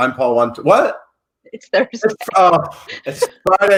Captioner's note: laughs